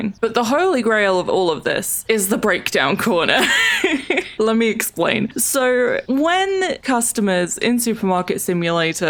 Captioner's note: laughs